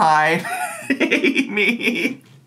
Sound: laughs

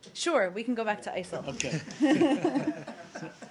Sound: laughter

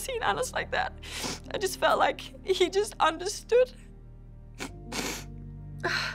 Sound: sniffles

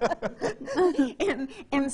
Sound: laughs

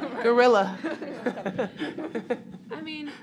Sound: laughter

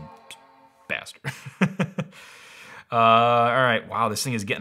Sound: laughing

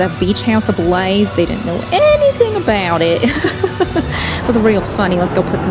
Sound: laughing

